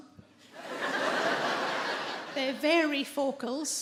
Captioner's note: audience laughing